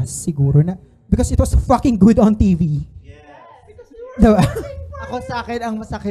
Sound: audience agreeing

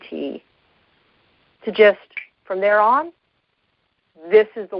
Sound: snaps finger

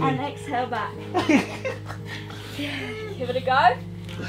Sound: Ethan laughing

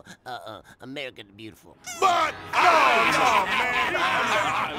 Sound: laughter

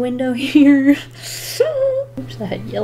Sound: nervous inhale

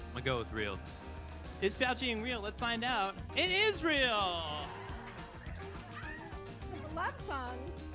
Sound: applause

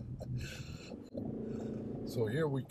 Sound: engine revs

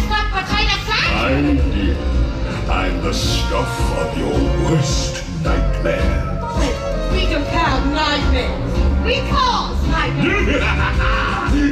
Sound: laughs

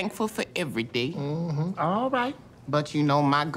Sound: mmhmms

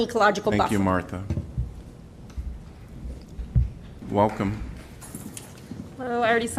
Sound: applause

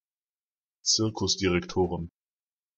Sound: fast Pronunciation

